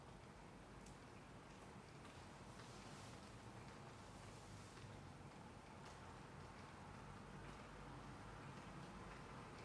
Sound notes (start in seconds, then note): 0.6 sound of rain ☔️